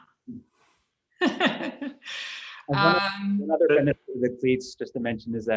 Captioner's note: chuckles